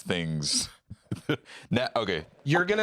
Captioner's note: laughs